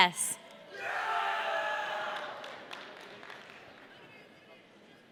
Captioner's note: audience cheering